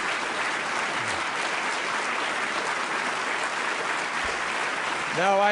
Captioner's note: applause